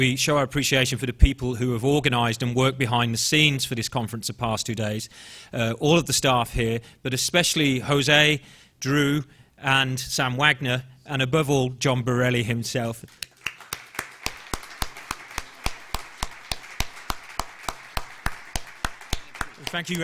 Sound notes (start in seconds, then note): 13.0 clapping